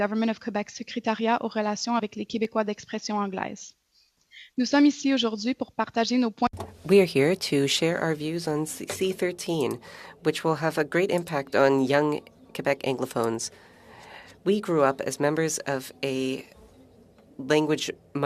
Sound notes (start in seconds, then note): 9.9 speaking French